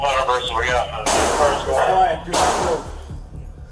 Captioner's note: gun firing